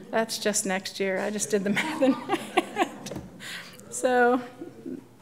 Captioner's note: laughs